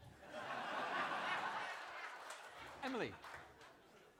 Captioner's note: applause